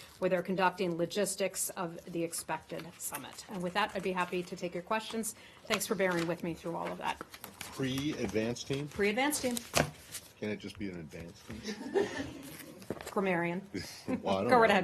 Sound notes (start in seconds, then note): 11.6 laughter